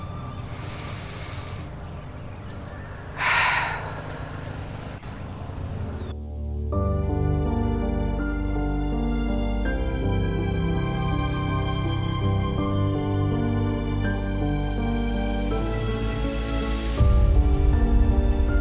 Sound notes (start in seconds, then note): 0.5 Gabriel inhales; 2.7 Gabriel exhales; 6.6 piano theme music